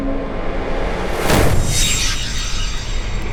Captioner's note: gun shoot